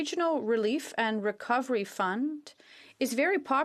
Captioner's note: speaking French